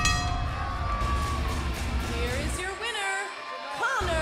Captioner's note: bell ringing